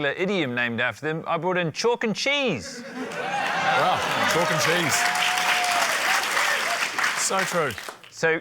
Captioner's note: laughter, applause